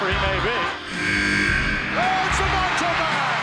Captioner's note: alarm blares